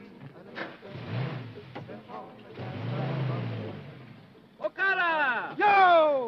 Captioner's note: engine revving